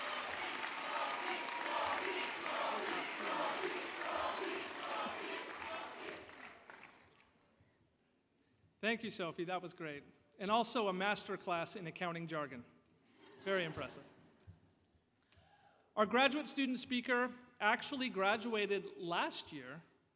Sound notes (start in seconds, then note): 2.2 cheers and Applause